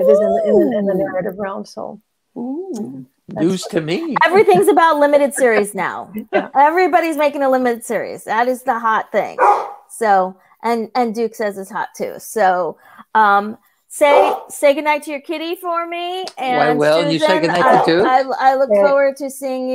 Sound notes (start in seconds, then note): 9.4 bark